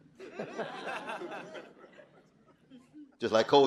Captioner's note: audience laughing